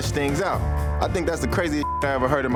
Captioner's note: beep